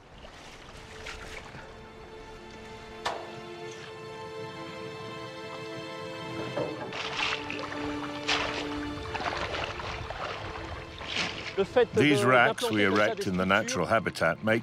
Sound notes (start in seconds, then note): 0.0 water splashing; 2.7 soft string music; 6.2 water splashing